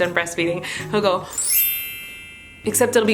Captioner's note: twinkle sound effect